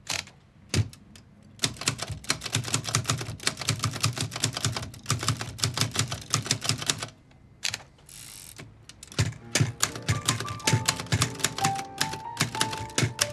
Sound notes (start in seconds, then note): 1.6 typewriter keys clacking; 9.2 light piano music